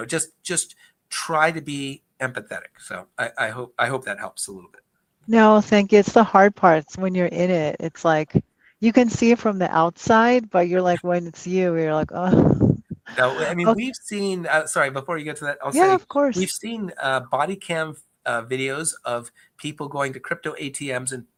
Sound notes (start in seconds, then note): 13.0 chuckles